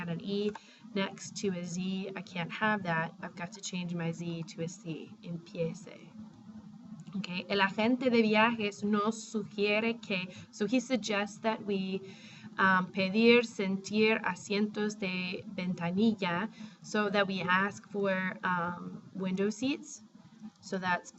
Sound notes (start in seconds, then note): 6.7 spanish; 7.7 speaking spanish